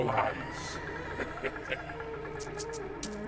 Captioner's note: leprechaun chuckling; eerie music